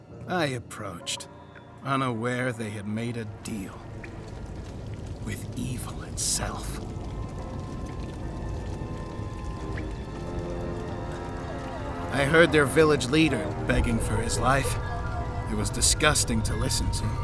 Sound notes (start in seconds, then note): 7.3 fire crackling; 7.3 foreboding music